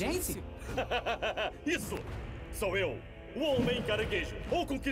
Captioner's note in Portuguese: risos